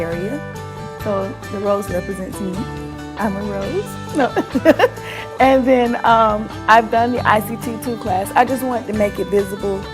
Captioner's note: laughs